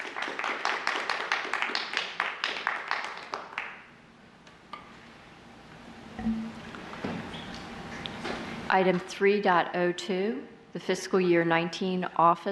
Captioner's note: applause